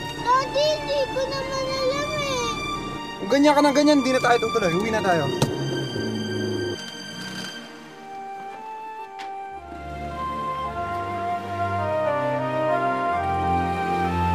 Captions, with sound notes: Daddy, I didn't know it was here! If you keep doing this, let's stop. -Let's go home. -[engine revving] [melancholic music playing]